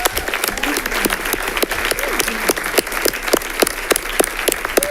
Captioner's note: audience applauding